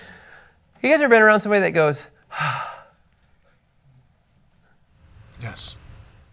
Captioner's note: sighs